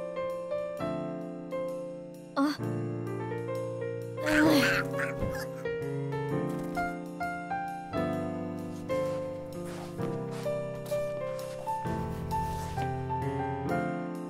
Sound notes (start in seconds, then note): 4.2 crow caws; 8.5 slow piano music continues